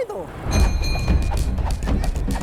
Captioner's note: bell rings